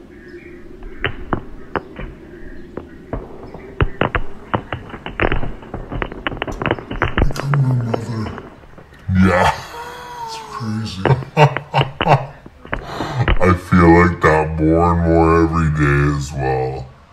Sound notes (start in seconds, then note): 5.0 repeated sharp popping noises continue with faint sound of birds chirping; 7.3 in deep distorted voice; 9.1 distorted and muffled laughter